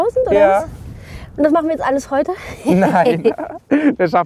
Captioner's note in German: lacht